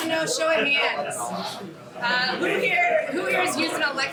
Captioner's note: indistinct chatter